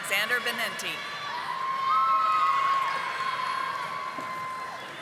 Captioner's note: audience applauding